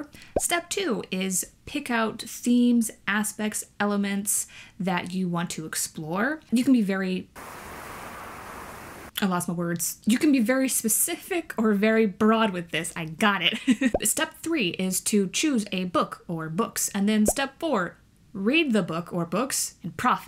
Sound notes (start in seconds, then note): 7.4 wind blowing